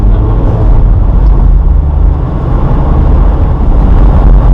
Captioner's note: engine roaring